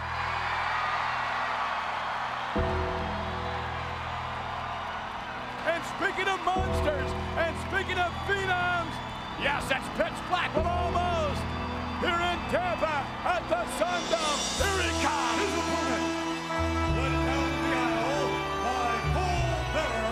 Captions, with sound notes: (crowd cheers) (bell tolls) And speaking of monsters, and speaking of phenoms. Yes, it's pitch black, well, almost, here in Tampa at the Sun Dome, here he comes! His opponent, led down the aisle by Paul Bearer.